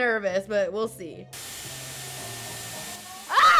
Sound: hair tool whooshing

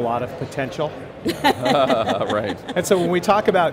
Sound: laughing

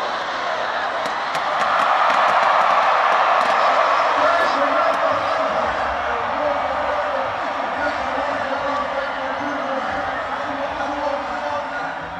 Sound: clapping, cheering

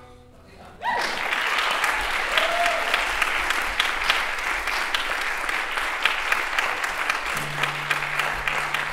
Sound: applause

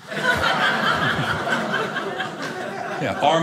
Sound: audience laughing

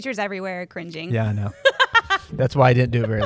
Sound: laughs

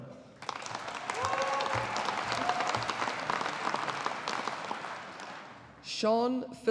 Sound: audience applauding

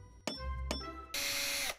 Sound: hammer tapping; power drill whirring

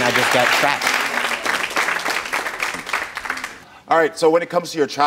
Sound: audience applauds

